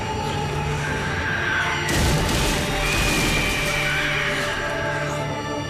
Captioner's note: creatures screeching; gentle triumphant music